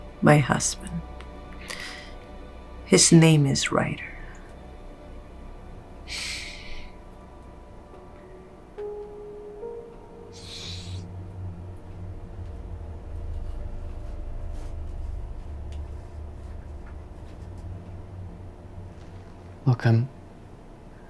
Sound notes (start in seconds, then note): 5.9 Colin sighs; 10.4 Naomi sniffles